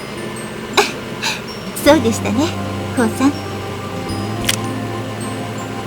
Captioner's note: rain; giggle